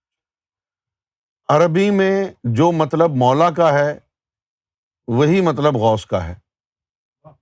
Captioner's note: in Urdu